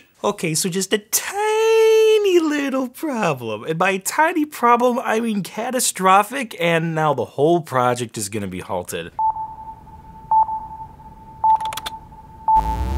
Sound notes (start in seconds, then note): 10.0 radar beeping